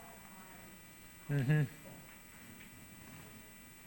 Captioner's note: group chatter